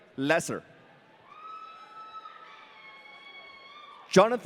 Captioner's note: audience cheering